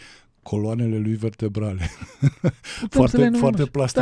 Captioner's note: laughter